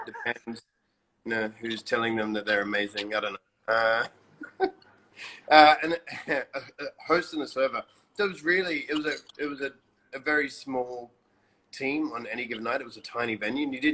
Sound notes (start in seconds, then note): 5.1 laughs